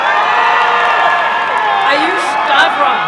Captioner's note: applause and cheering